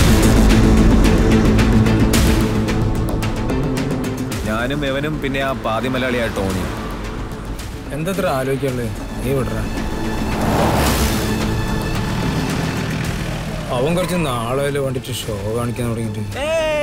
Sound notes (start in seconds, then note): 10.6 car Sound